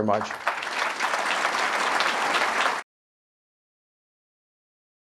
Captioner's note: audience clapping